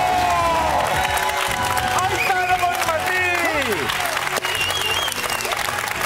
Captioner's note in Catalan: aplaudiments